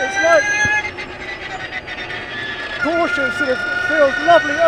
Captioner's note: engine revving